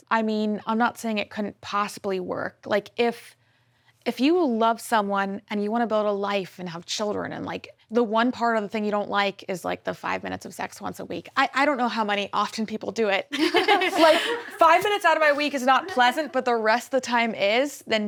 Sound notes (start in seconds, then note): 13.4 laughs